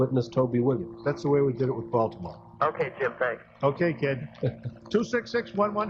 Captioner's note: laughter